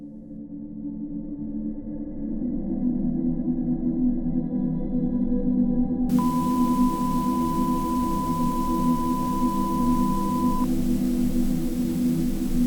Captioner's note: drone